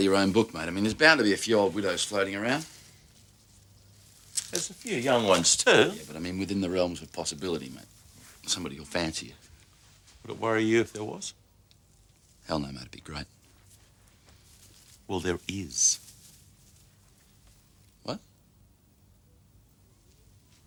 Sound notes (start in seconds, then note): none